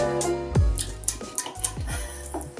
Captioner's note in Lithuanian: Eating sounds